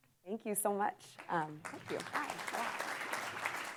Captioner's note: audience applauds